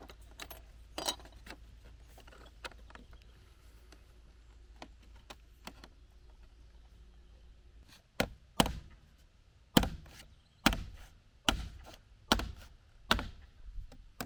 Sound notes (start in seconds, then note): 0.3 metal scraping; 8.3 hammer pounding